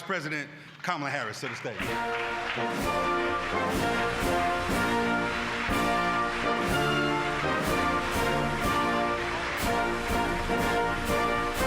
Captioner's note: applause